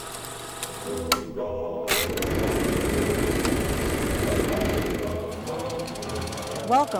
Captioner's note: projector clicking